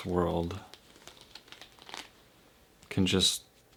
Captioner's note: soft clicking